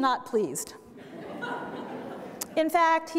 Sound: audience laughter

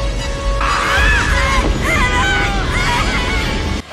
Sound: kids screaming

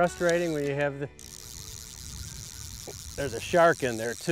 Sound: reel clicking

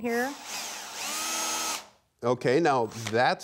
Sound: drill machine sound

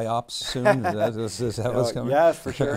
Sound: laughs

